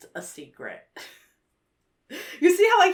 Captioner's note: chuckles